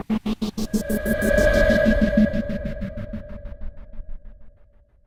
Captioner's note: pulsating whirring